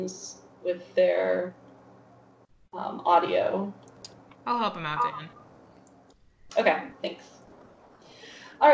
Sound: lady voice

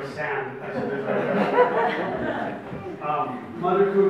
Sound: audience laughs

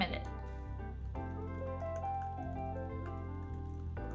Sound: typing sounds

